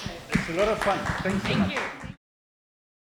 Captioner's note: applause